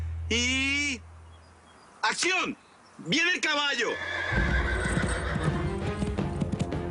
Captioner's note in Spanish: Relinchos